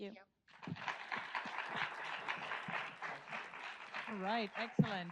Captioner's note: audience applauds